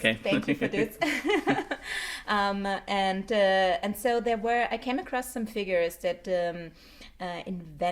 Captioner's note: chuckles